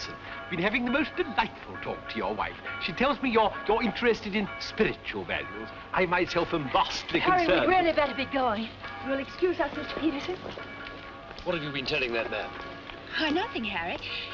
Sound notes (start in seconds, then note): 10.4 church Bells